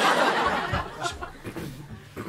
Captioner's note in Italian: tchk